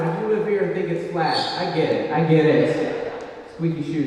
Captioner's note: a shoe squeaks